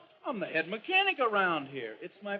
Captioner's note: none